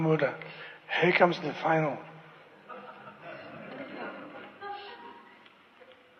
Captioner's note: laughter